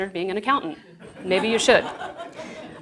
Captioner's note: audience laughs